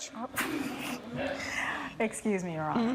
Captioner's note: audience giggling